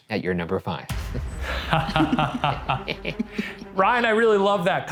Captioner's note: laughing